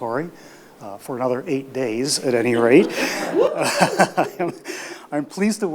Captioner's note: laughs